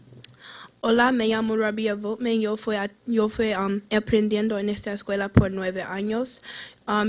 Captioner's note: foreign language